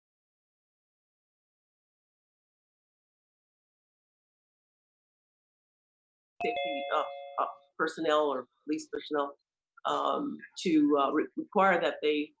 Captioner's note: audio interruption